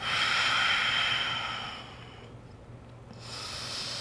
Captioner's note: breathing